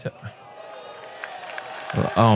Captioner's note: cheering